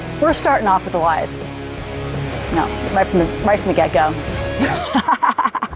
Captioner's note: laughs